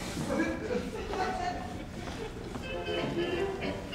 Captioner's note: audience chuckles; upbeat Vaudevillian music